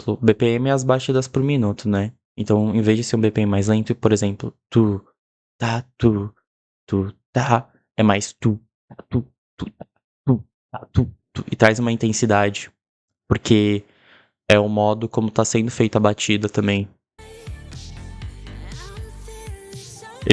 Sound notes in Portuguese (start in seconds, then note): 5.6 fazendo sons com a boca imitando a percussão lenta; 9.6 fazendo sons com a boca imitando a percussão rápida